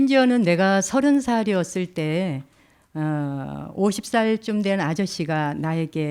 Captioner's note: speaking in Korean